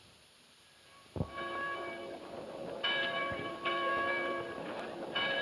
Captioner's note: church bells ringing